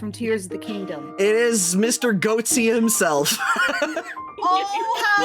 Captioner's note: laughing